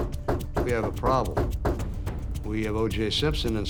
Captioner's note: knocking on door